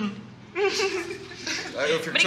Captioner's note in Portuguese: Risadas